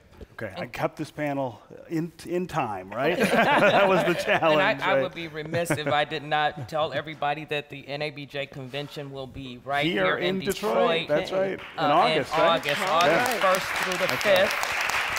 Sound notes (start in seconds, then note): 3.0 laughter